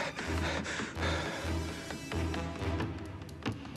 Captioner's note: panting